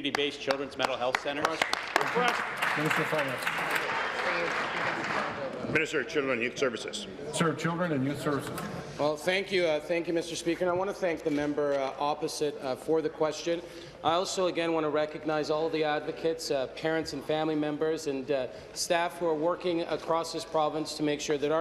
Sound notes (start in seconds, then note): 5.9 applause